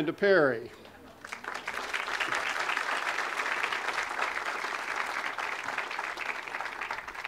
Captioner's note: audience applause